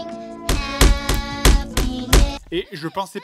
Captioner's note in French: coups de marteau